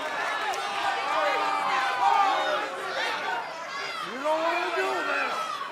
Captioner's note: crowd chatter